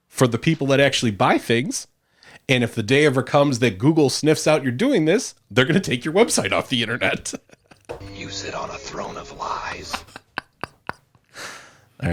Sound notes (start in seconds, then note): 6.8 laughs; 8.5 voiceover; 8.9 laughs